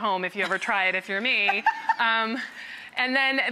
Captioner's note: Rachael chuckles